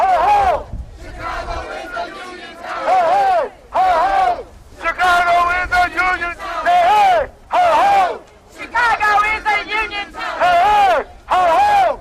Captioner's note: chanting